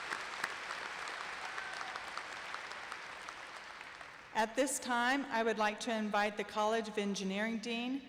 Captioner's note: applause